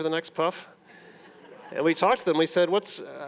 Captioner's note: audience laughing